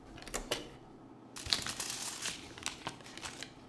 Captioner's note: the sound of CD changing; the sound of paper envelope opening